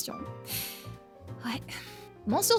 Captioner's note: sighs